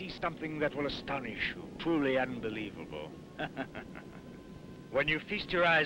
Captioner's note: laughs